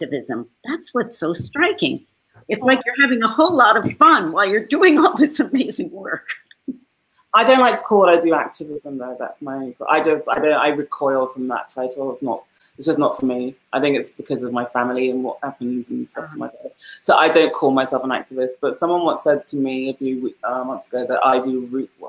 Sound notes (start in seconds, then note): 5.6 laughs